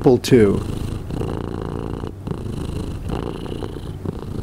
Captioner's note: cat purring